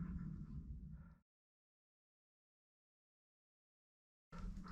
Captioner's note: 40 seconds of silence later